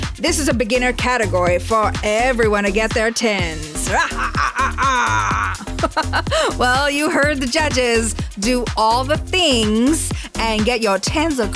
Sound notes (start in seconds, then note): 3.8 laughs